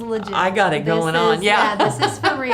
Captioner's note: laughs